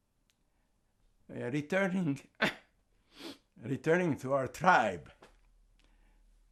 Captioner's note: coughing